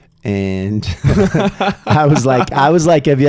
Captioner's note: laughing